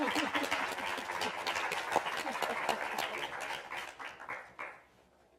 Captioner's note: applause from speakers and audience; chuckles